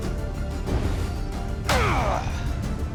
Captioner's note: grunt